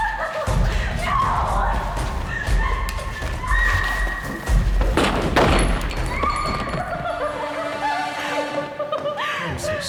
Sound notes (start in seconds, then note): 0.8 screaming; 4.8 gun fires; 6.7 giggling